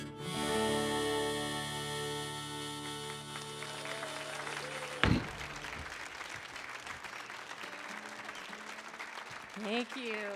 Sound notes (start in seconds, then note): 2.7 audience cheering; 2.7 audience clapping; 8.2 guitar tuning